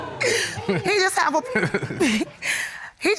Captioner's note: Kamal laughing